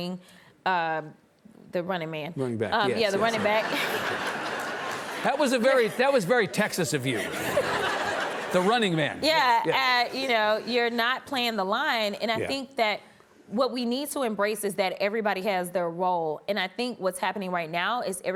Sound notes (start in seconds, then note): 3.0 audience laughs